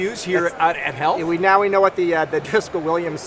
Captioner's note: laughs